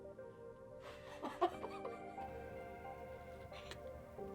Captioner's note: laughing